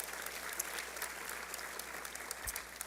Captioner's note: applause